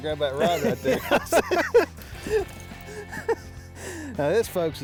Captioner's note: both laughing